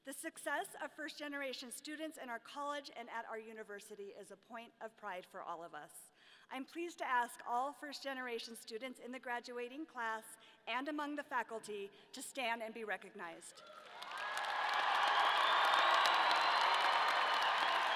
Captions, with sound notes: The success of first generation students in our college and at our university is a point of pride for all of us. I'm pleased to ask all first generation students in the graduating class and among the faculty to stand and be recognized. (audience cheering)